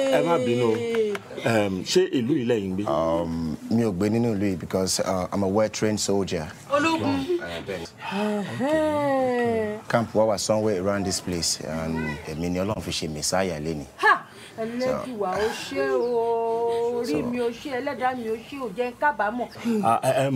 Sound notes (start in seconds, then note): 0.2 man speaking in foreign language; 3.4 speaking in foreign language; 6.9 woman speaking in foreign language; 10.0 speaking in foreign language; 15.4 woman speaking in foreign language